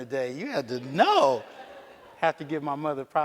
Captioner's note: audience laughs